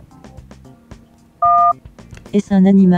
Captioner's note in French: son de touche de téléphone